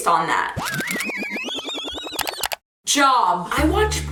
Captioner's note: record scratching